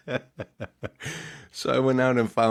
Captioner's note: laughing